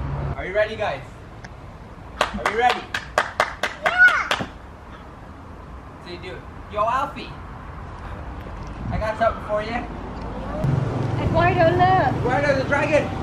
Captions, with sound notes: Are you ready guys? *clapping* Are you ready? Yeah! Yo Alfie! I got something for ya! Eduardo look! Wardo the dragon!